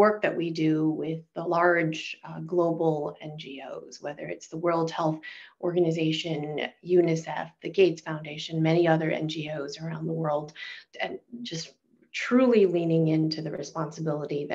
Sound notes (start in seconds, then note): none